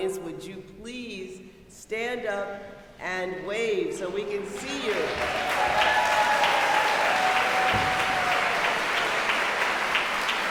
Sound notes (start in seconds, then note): 4.5 audience cheering and applauding